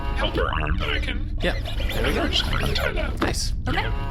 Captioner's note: mechanical sound of arm coming out and untying the rope